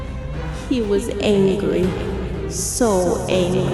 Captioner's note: ghostly echo